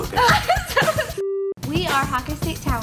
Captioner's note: laughs